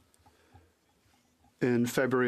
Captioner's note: speaking French